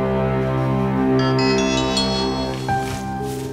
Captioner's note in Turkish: Telefon çalıyor